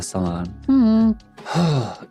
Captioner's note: sighs